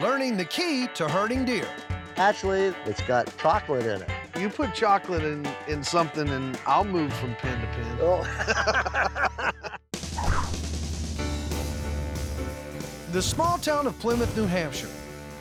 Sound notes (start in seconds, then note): 8.2 laughter